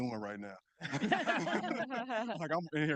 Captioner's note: group laughing